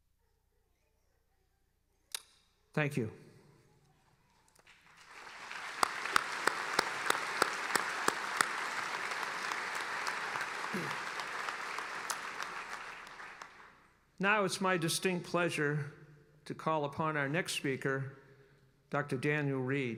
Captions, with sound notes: Thank you. (applauding) Now it's my distinct pleasure to call upon our next speaker, Dr. Daniel Reed.